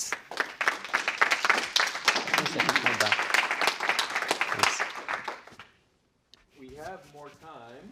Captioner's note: applause